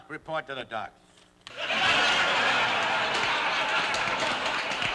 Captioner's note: laughter